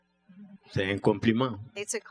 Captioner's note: speaking french